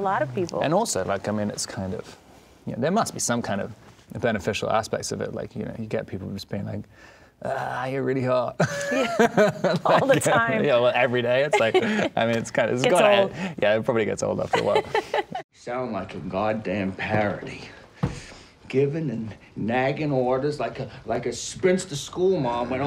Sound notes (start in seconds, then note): 8.6 laughing; 14.4 laughing